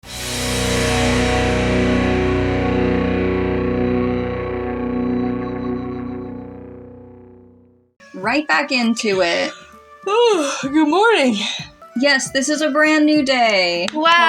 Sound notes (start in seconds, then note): 9.3 yawn